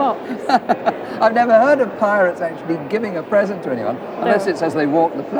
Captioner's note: laughs